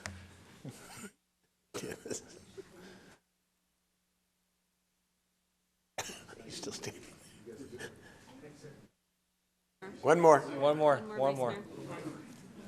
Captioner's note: laughter